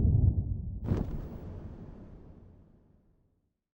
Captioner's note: quick thunder clap